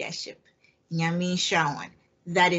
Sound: speaks in a foreign language

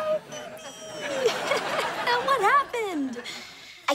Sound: laughs

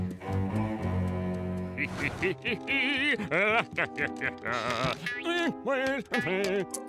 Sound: laughing

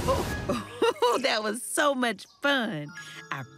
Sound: chuckles

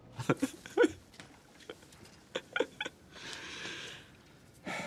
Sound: chuckling

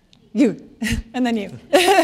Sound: laughter

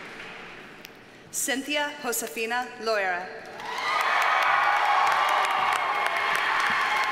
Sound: audience cheers and applauds

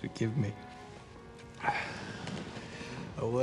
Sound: gasps

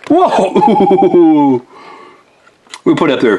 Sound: laughs

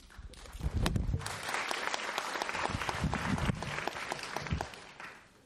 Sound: applause

